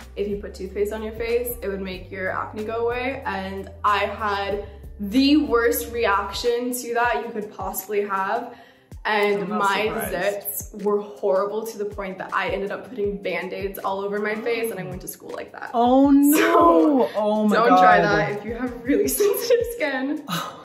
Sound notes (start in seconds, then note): 16.3 chuckles